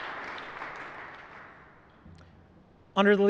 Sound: applause

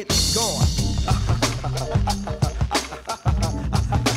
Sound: laughter

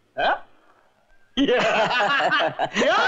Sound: laughing

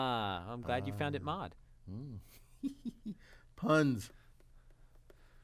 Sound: laugh

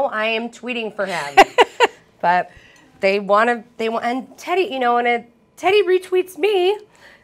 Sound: laughter

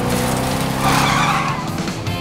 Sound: tires screeching

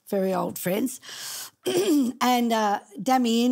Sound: clearing throat

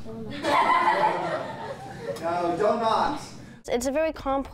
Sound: laughter

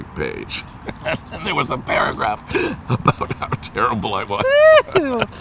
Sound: laughs

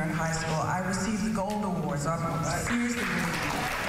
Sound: applause

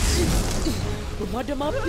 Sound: flame bursts

